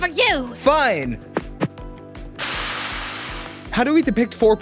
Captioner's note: woosh